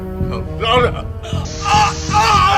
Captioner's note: screams